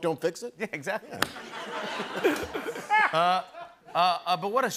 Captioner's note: laughter